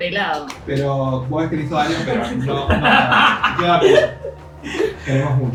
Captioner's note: laughs